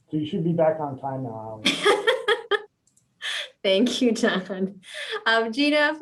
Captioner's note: laughing